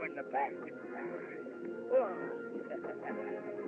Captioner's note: chuckles